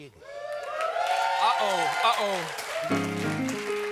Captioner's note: cheers and applause; piano riff